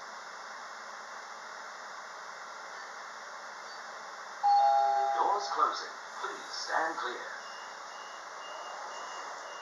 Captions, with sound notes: (Doorbell) Doors closing, please stand clear.